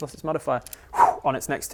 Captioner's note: whoosh